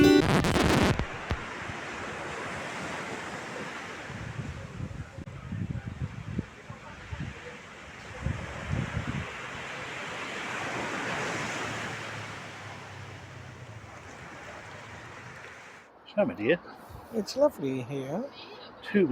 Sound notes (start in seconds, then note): 0.0 record scratch. music stops; 7.1 waves crashing. people chattering